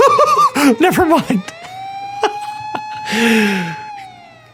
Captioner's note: laughter